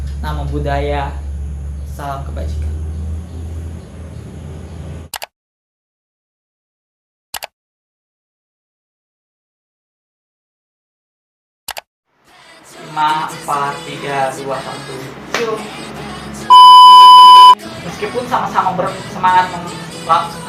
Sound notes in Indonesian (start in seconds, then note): 5.1 suara mengeklik tetikus; 7.3 suara mengeklik tetikus; 11.4 suara mengeklik tetikus